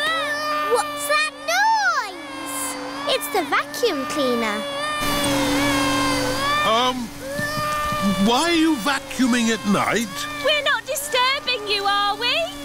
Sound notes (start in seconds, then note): 0.2 vacuum cleaner whirring; 5.3 crying